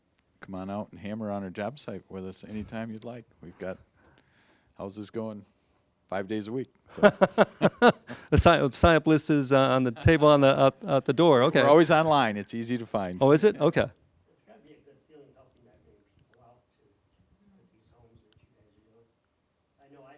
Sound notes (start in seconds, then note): 6.9 laughing